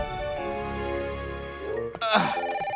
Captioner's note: phone ringing